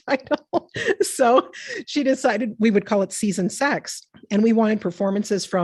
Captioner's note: laughs